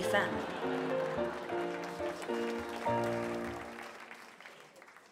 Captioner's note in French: Applaudissement